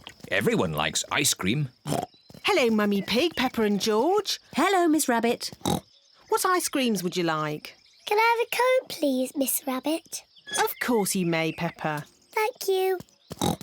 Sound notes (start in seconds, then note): 5.6 oinks; 13.4 oinks